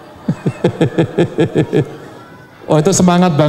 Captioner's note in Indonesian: tertawa